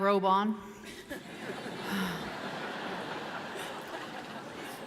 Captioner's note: audience laughing